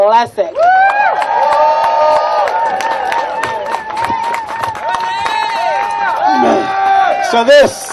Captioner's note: applause